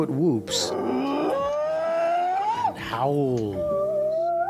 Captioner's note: Bigfoot whooping